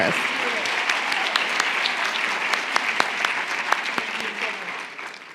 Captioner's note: applaud